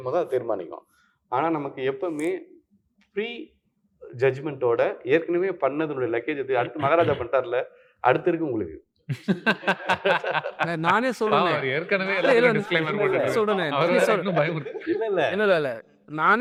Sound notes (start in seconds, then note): 9.1 laughs